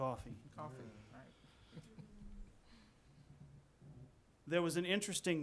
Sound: slight chuckling

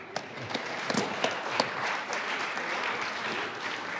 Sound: audience applauds

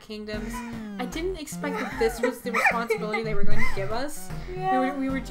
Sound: Blueheart is giggling

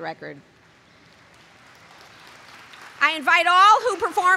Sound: applause

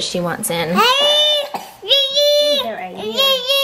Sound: babbling

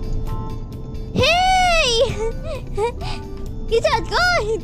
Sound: laughs

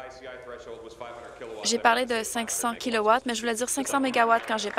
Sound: applause

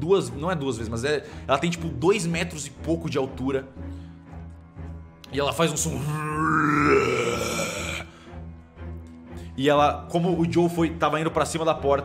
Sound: roar

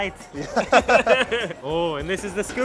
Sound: both laughing

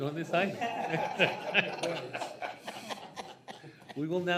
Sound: trustees laugh

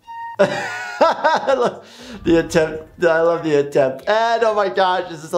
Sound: laughs

